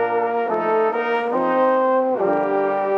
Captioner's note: none